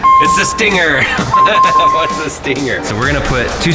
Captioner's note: laughs